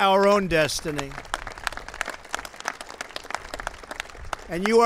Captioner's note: applause